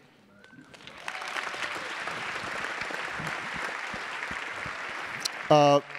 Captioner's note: attendees applauding